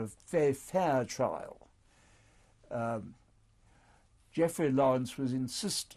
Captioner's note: pauses for 3 seconds